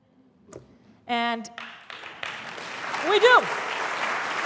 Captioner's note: applause